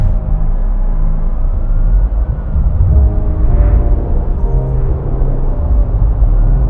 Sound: distant traffic and police sirens

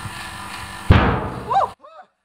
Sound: barrel implodes with a bang

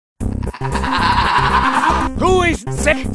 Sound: crazy medic laugh

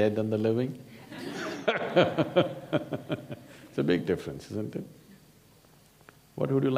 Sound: laughter

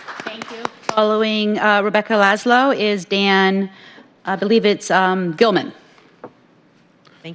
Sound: applause

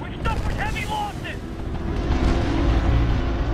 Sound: radio

